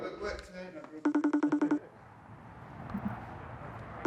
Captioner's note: cellphone ringing